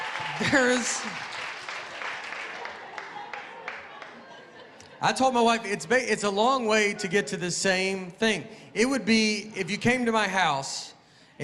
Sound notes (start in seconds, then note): 0.0 applause